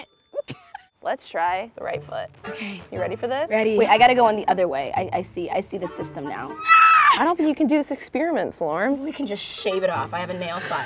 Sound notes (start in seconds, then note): 0.1 laughs; 6.5 squeals